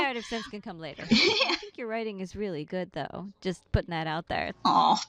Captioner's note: laughing